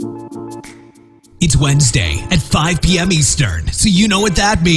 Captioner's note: voiceover